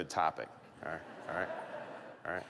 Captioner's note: laughter